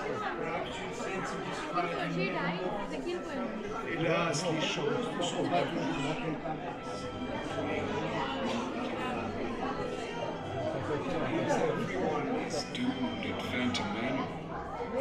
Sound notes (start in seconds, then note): 4.8 Phantom Manor speaks French